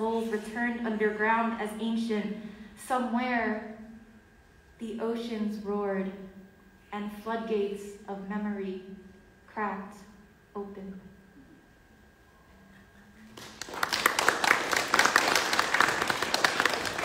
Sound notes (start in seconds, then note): 13.2 audience clapping